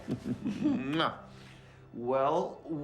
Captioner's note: both chuckling